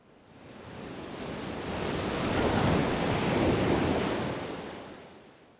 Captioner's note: waves crashing